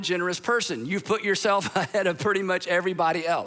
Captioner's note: chuckles